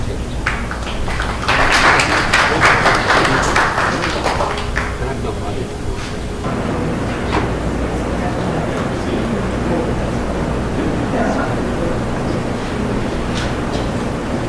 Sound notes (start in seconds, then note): 1.2 audience applauds